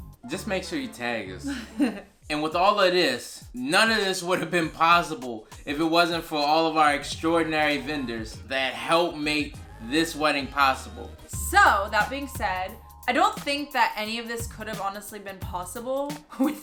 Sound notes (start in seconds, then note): 1.4 laughs